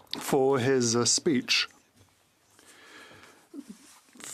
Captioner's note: speaking French